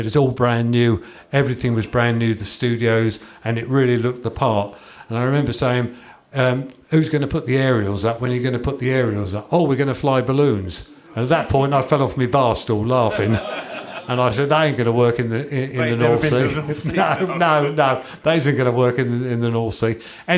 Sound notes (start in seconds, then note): 10.6 chuckles; 13.1 laughter